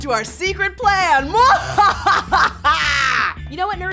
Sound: evil laughing

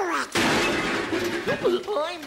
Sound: background metal clanging; distant Goofy chuckling

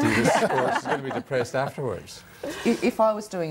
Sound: all laugh

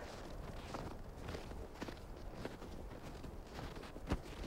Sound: boots crunch in the snow

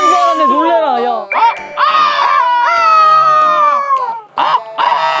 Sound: cock-a-doodle-doos

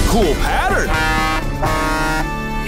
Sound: honking

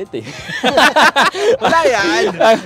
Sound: laughs

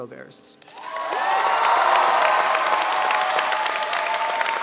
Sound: audience cheering

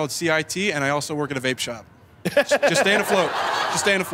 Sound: laughs

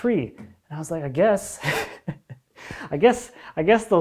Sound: chuckles

